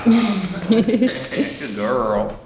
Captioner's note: laughing